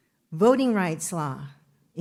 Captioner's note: none